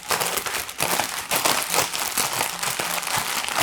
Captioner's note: bag crackling